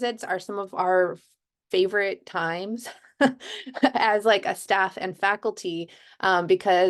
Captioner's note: laughter